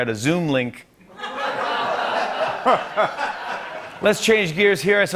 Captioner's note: laughter